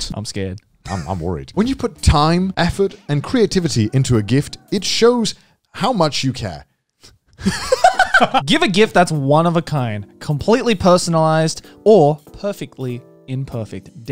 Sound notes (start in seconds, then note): 7.3 both laughing